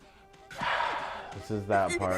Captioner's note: exhaling